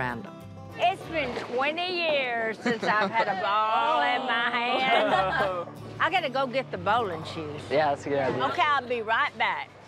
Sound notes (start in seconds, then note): 4.7 laughter